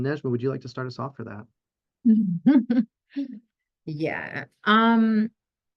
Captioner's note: laughter